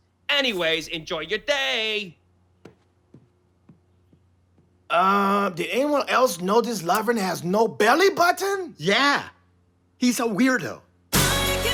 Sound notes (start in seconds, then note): none